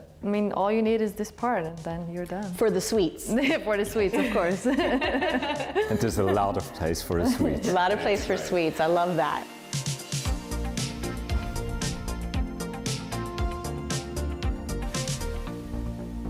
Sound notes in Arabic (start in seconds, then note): 4.1 يضحك; 9.4 موسيقى الآلات